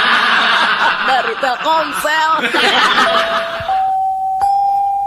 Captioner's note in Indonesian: tertawa